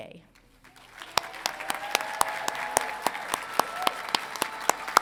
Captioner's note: crowd cheering